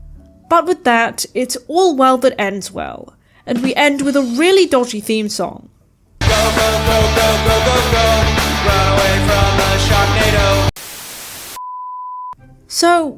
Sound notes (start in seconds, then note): 10.7 static